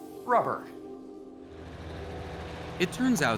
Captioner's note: engine running